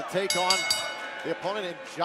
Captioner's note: bell ringing